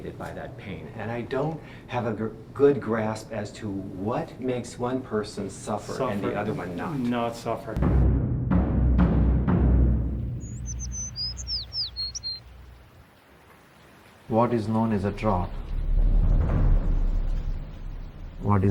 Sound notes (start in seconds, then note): 7.7 tense drumming music; 10.1 birds chirping; 10.6 rain pattering; 15.1 tense drumming music